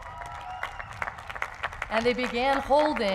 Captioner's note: applause